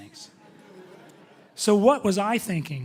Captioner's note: audience chuckling